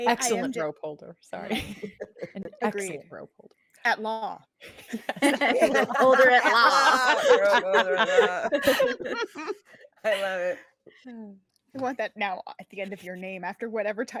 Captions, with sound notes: - Excellent rope holder. - Agreed. - Excellent rope holder. - At Law. (all laughing) - Rope holder at law. - Rope holder at law. I love it. - I want that now at the end of your name after whatever